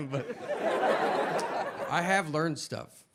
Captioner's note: audience laughing